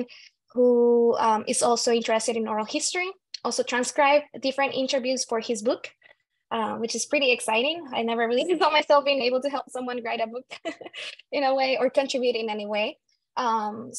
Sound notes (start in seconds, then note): 10.5 laughing